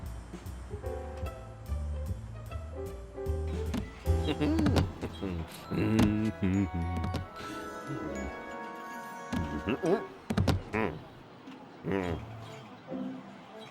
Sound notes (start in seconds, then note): 4.0 mumbles happily; 10.4 grunts